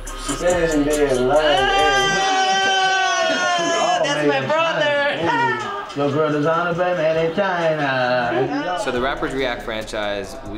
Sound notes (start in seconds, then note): 1.8 shouting